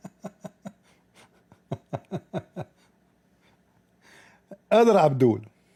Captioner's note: ketawa